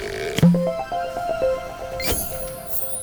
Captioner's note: playful chime